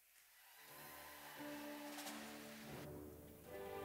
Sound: audience applauding

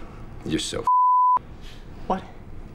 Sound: beep

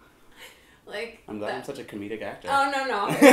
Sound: laughs

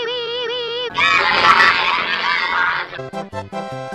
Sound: indecipherable demon sounds

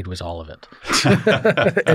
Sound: laughter

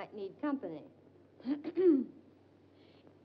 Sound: June clears throat

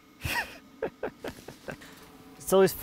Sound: laughs

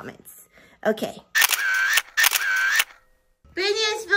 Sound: camera clicks

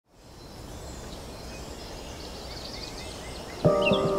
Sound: wind whispering; birds chirping; inspiring music

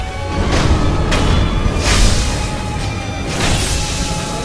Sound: deathblow rings

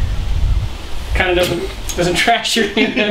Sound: laughing

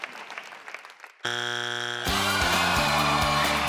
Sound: buzzer beeping; upbeat music

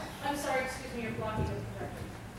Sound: voiceover

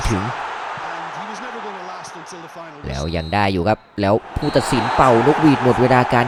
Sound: applause

